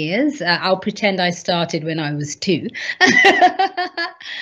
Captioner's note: laughs